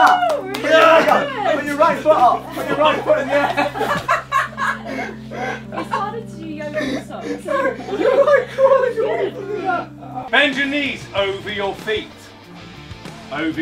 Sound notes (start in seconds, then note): 1.3 applauding; 4.0 group laughing